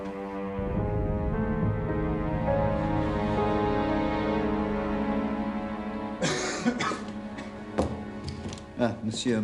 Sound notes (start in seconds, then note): 6.2 <i> Lavoisier coughs</i>